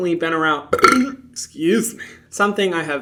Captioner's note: Hyram burps